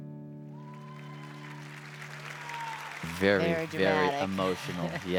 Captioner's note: applause